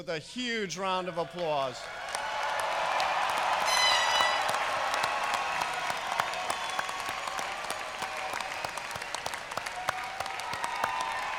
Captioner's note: applause